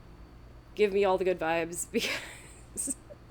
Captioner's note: laughs